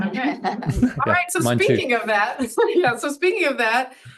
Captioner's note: audience laughs; laughs